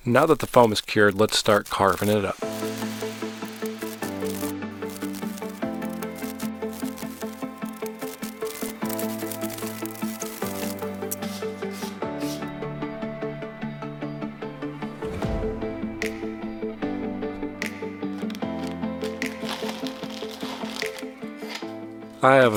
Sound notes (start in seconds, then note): 2.9 upbeat music; 5.7 paper crinkling; 8.6 upbeat music; 11.2 scissors snipping; 14.2 upbeat music; 18.0 paper crinkling